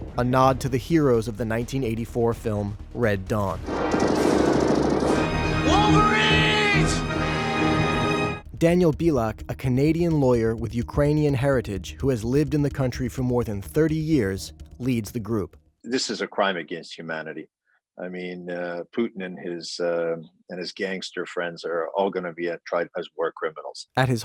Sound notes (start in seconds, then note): 3.6 gunfire; 4.1 dramatic music; 7.3 dramatic music